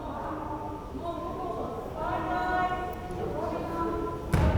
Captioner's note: crowd chattering